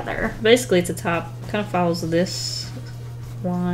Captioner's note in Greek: none